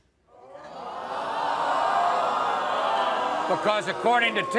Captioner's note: audience gasping